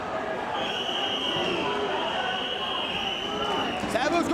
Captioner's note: spectators cheering